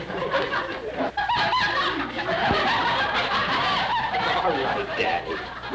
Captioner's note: laughter